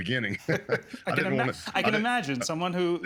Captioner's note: chuckling